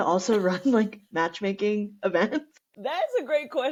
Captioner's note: laughter